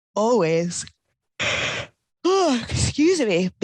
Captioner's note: yawning